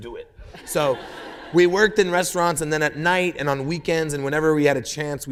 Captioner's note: laughter